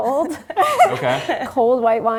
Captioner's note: chuckling